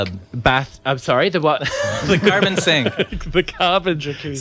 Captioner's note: laughs